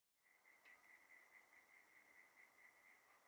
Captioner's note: cicadas chirping